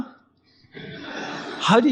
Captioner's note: audience laughing